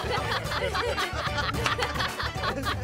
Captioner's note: clapping